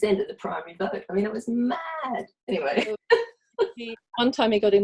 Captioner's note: laughs